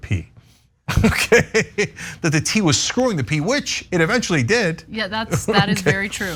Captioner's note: laugh